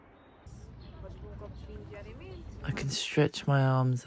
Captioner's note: street sounds